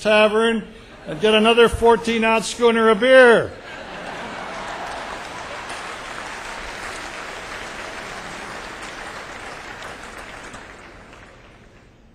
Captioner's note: laughter